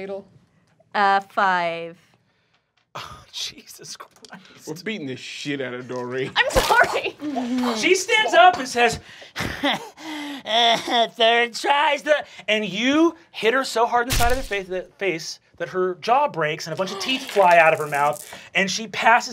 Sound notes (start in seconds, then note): 6.4 splattering; 9.8 breathing heavily